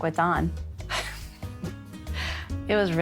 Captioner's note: laughs